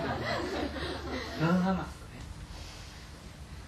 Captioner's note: audience laughter